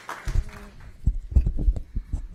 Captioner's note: applause